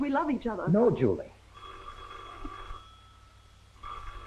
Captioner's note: phone rings